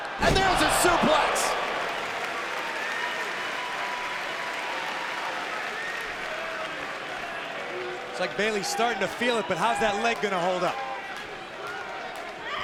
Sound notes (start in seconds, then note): 3.1 crowd cheers and claps